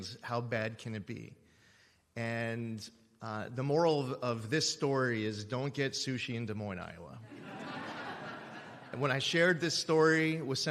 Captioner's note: laughter